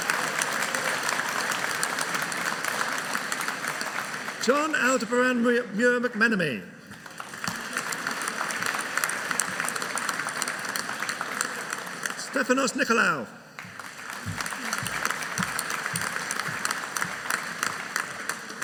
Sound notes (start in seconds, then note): 6.8 audience applauding